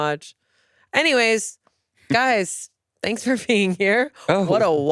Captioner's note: laughs